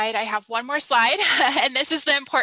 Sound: laughs

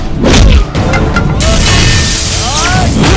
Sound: electrical buzz

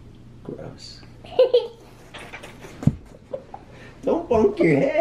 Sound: chuckling

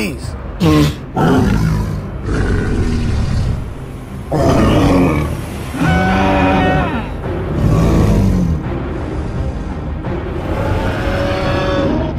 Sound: shrieking and growling

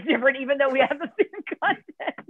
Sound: laughter

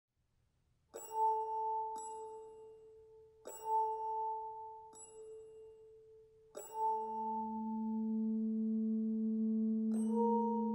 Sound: metallic hum and chimes

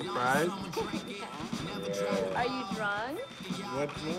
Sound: Reena laughing

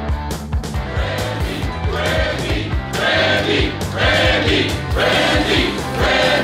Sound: crowd

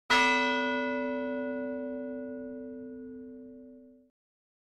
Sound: bell ringing

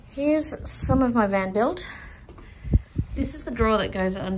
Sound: none

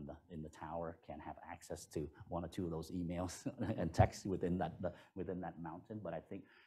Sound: laughter

